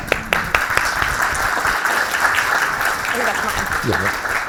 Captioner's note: audience clapping